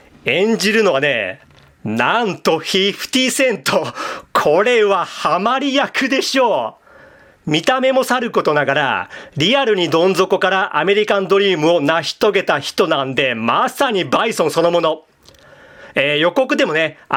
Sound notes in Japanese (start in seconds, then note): 4.0 笑い